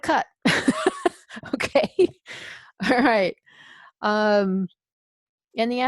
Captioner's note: laughs